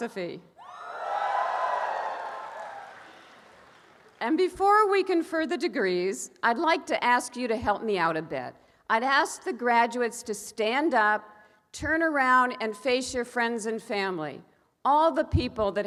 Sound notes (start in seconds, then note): 0.6 audience cheers